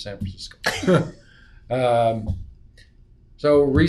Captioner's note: laugh